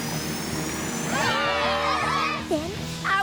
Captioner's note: cheering